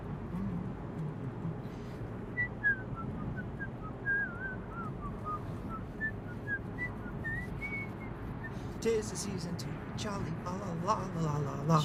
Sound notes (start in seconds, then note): 2.3 William whistling; 9.0 singing